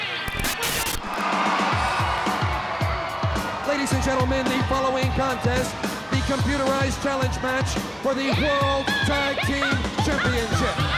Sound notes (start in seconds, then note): 1.2 crowd cheering; 1.2 upbeat music